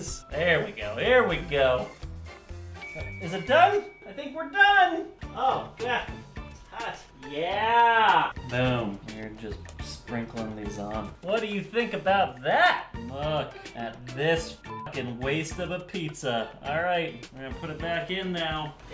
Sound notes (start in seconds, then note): 2.8 high-pitched ding